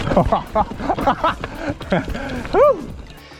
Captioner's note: laughs